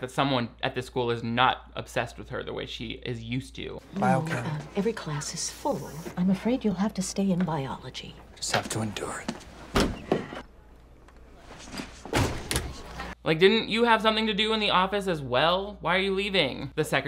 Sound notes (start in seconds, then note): 11.6 door opening forcefully